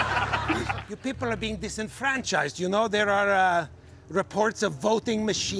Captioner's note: laughter